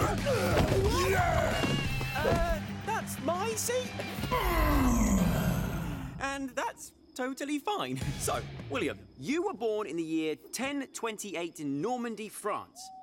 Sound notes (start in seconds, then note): 0.0 groaning; 4.2 groaning